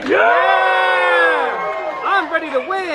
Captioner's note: crowds cheers and applauds